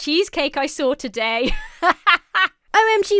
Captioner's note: laughs